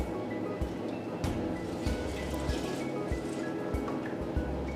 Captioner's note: milk pouring into bowl